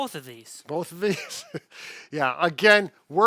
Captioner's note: laughing